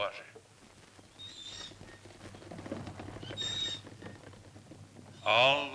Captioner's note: cart wheels continue creaking